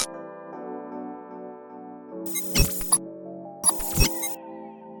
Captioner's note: logo beeps